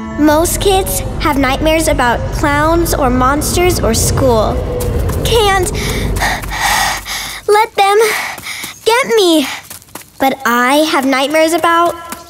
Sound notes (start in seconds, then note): 5.7 pant